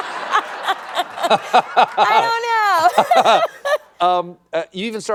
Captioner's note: laughs; laughter